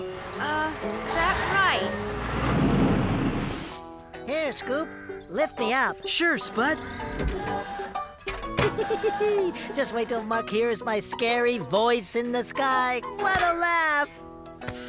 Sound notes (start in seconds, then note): 8.5 giggling